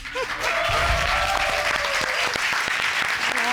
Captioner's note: cheering, applauding